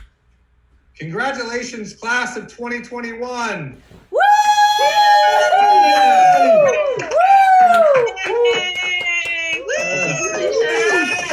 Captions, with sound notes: - Congratulations, Class of 2021. (faculty cheering)